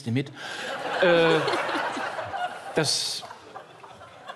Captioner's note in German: Lachen